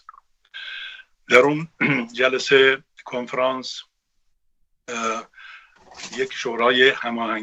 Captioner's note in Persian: گلویش را صاف می‌کند